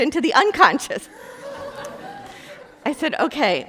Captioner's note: group laughing